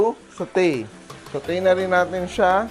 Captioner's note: sizzle